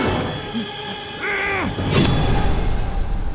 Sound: Kyle shouts

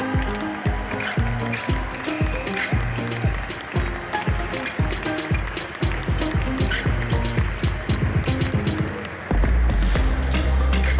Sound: applause; ♫ Midtempo guitar music ♫

